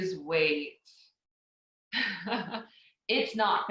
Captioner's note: laughs